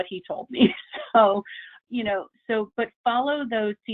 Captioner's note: chuckles